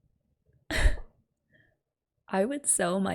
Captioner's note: disbelieving laugh